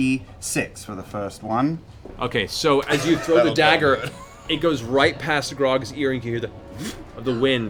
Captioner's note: whoosh